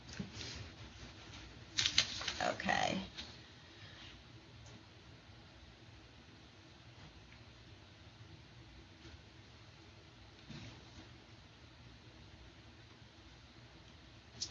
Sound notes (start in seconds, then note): 5.6 silence